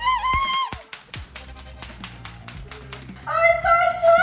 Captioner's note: clapper clapping